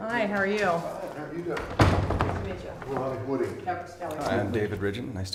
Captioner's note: SFX: door slam